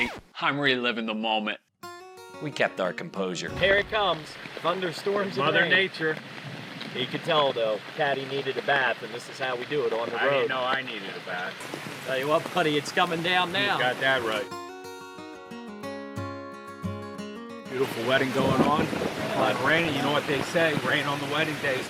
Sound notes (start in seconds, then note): 6.5 raining; 13.4 guitar music; 18.4 thunder claps